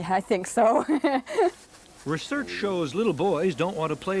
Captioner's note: laughing